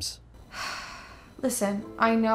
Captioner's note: sighs